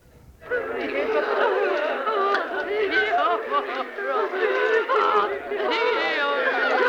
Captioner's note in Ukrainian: плач